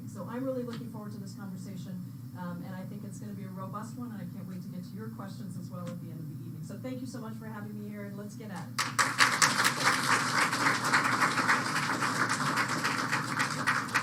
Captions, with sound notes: So I'm really looking forward to this conversation. And I think it's going to be a robust one. And I can't wait to get to your questions, as well, at the end of the evening. So thank you so much for having me here. And let's get at it. [APPLAUSE]